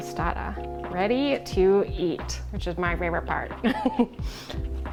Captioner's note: laughs